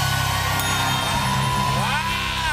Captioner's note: cheering and applause; ding!